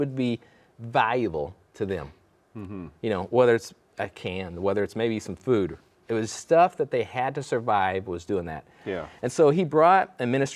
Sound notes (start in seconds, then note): none